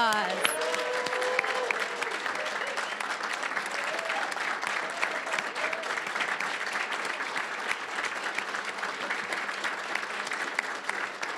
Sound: applause, cheering; applause

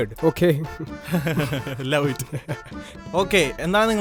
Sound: laughs

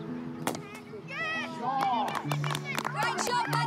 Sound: peaceful music; applause

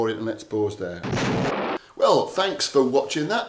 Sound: explosion sounds

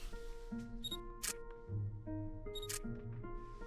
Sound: beeps, clicks

